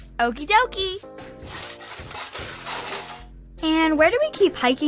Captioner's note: sifting through drawer